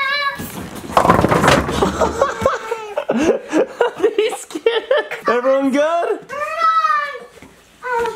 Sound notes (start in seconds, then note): 0.7 bowling pins clattering; 1.9 laughs